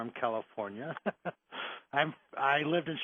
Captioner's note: laughing